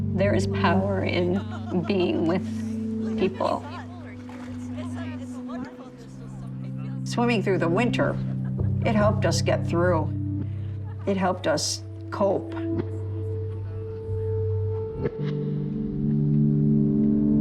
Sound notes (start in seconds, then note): 3.9 people chattering; 13.9 gentle music